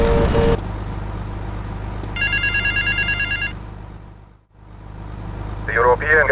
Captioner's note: phone ringing